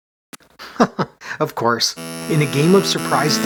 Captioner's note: chuckles